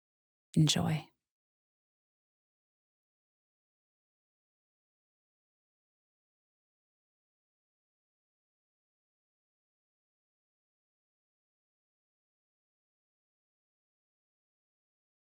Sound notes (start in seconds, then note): 2.9 silence